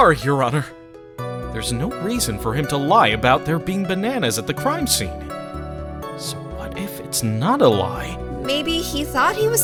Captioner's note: under his breath